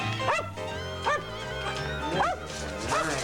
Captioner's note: arf arf